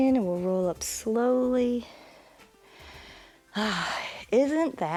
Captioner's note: inhales and exhales